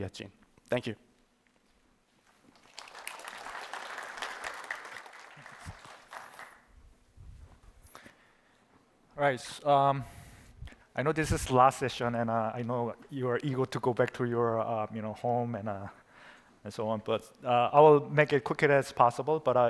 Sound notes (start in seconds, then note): 2.3 applause